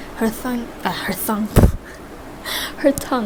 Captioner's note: splutters